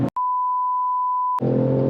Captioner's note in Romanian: Beep